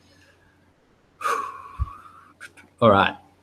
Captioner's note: deep sighing